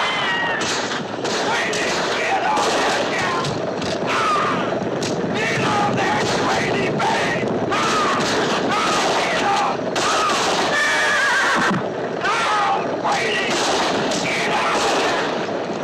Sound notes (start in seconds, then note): 10.8 horse whinnying